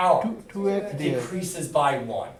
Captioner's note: voiceover